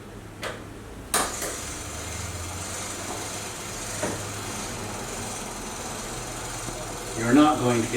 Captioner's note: sound of timer running